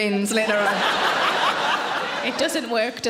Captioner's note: audience laughing